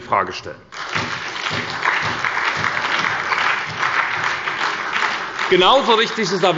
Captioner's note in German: Beifall bei der SPD und dem BÜNDNIS 90/DIE GRÜNEN